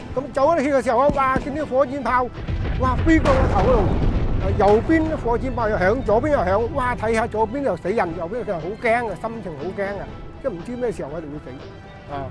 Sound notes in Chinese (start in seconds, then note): 5.4 爆炸